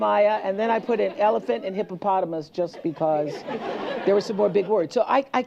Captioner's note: laughter